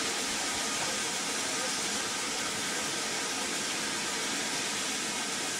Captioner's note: train releases steam